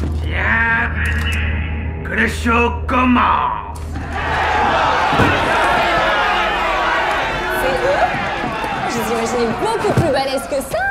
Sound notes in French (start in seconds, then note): 3.9 brouhaha